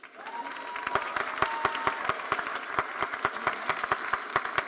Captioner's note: audience applauding